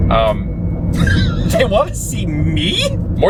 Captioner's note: laughing